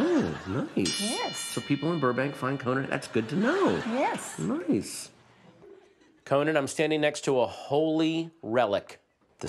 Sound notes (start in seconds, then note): 2.5 audience laughter